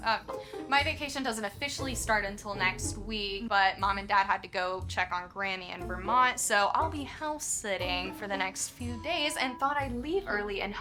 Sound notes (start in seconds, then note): none